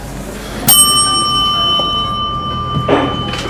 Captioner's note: bell sound